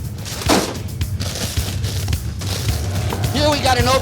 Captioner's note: bag thuds